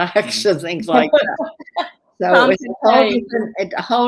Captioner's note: laughter